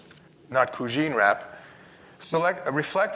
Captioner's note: speaks in Italian